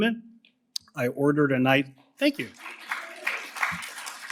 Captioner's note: applause